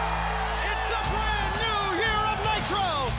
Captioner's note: crowd cheering